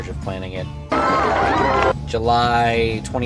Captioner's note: cheering